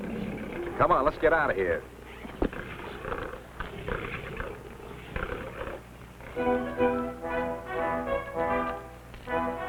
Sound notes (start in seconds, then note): 4.7 animals grunting; 6.4 dramatic music